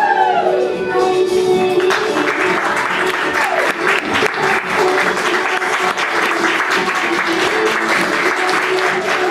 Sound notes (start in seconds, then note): 1.7 audience clapping